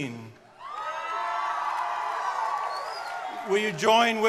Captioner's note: crowd cheering